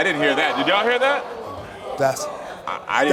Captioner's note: audience reacts shocked